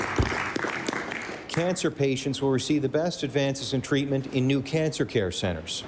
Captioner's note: applause